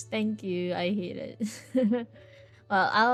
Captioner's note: laughs